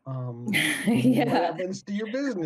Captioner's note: laughs